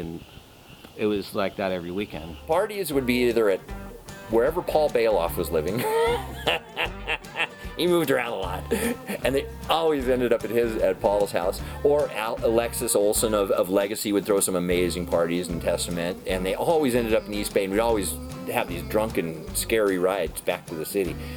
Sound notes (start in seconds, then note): 5.7 laughs